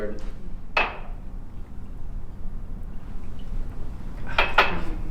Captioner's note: glass taps on table